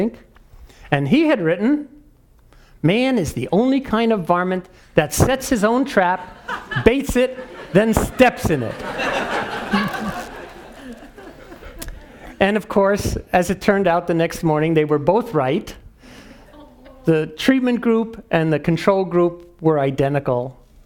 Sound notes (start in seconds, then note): 9.2 laugh